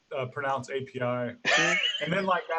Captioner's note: laughing